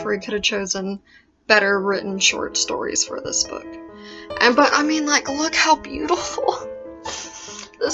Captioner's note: sniffles